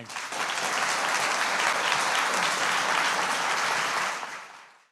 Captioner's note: audience applauding